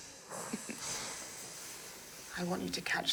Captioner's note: laughing